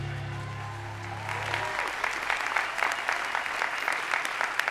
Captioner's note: audience applauding